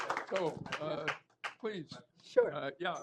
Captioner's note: applause